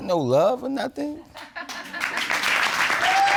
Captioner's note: audience laughs